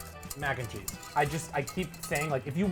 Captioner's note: whisk rustling